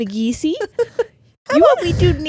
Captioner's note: giggling